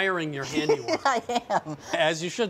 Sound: laughing

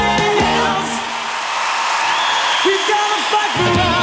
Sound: crowd roars

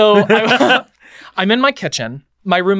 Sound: all chuckle

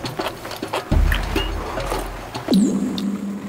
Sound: slurp

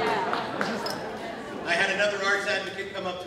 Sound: laughter

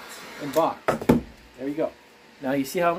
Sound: heat gun hitting surface

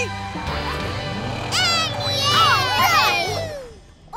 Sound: cheering

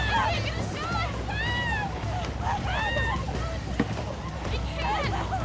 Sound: screams

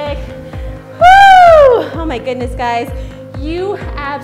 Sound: screams

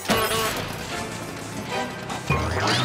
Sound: horn honks

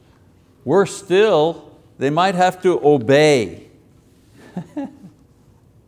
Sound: laughs

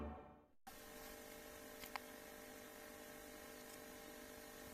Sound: camera noises

